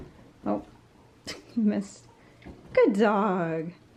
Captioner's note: laughed